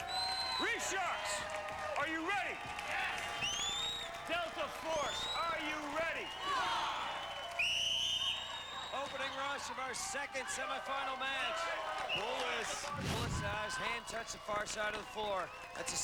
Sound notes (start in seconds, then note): 2.9 cheers; 6.4 cheers; 7.1 whistle blows